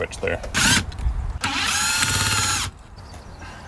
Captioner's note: drill whirring